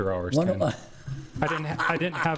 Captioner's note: laughing